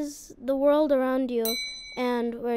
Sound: ding

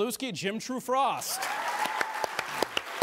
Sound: audience applauds

